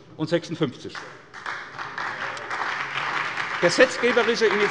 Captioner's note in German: Beifall bei der SPD